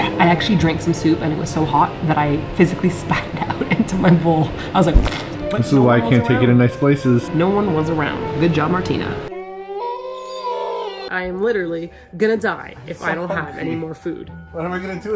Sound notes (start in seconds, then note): 4.9 splat noise